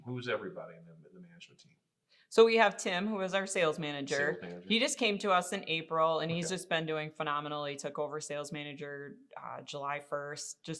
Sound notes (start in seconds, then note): none